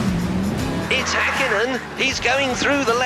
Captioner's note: mimics commentator